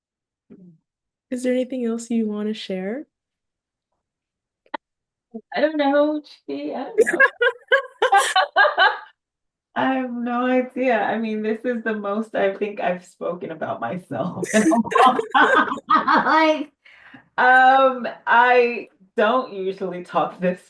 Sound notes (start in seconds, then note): 7.0 both laugh; 14.3 laughs